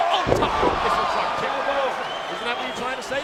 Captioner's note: crowd cheering